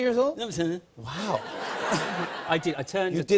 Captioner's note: laughter